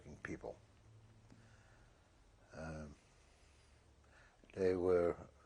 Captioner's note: pauses for 3 seconds